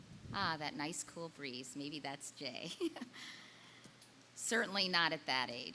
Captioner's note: laughing